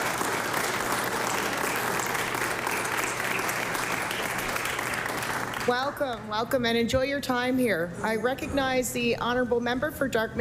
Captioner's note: applause